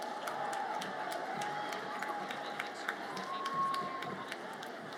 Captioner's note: audience cheers